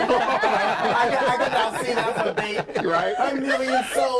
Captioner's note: overlapping laughter and chatter